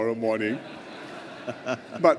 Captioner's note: laughter